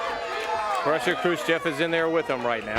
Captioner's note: crowd chatter